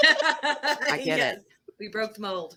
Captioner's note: laughing